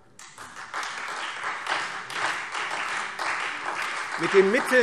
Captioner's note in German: Beifall Freie Demokraten und vereinzelt SPD